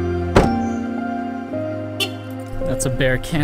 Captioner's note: car lock beep